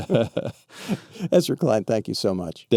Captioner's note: Ezra laughs